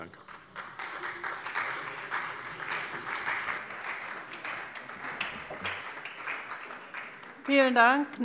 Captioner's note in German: Beifall bei der SPD